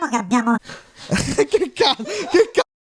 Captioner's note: laughs